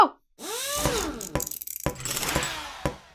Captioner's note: drilling